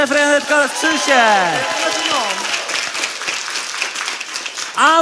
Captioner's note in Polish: oklaski publiczności